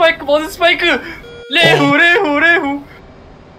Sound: RWR Warning sound

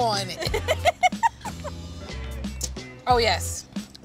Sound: laughing

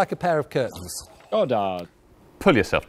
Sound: buzzer buzzes

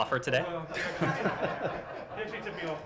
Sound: laughter

